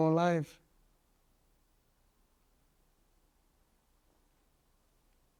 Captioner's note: pauses 8 seconds